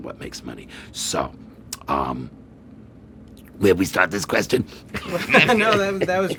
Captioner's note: laughing